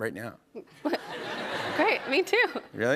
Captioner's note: laughter